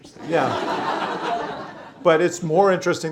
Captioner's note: laughter